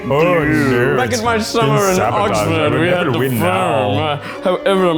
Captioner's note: mimics